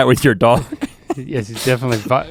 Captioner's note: laughs